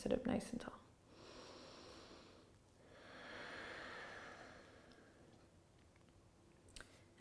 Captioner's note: inhaling and exhaling